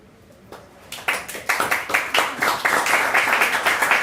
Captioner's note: applause